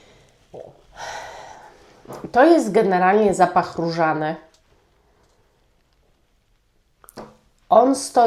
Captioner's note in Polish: westchnienie